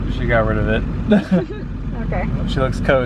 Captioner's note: both laugh